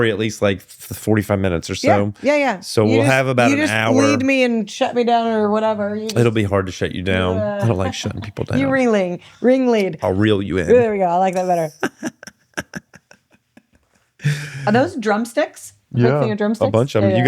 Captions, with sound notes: at least like 45 minutes or so. Yeah, yeah, yeah. So we'll have about an hour. You just bleed me and shut me down or whatever. It'll be hard to shut you down. I don't like shutting people down. You really, ring lead. I'll reel you in. There we go, I like that better. (laughing) Are those drumsticks? Yeah, a bunch of them.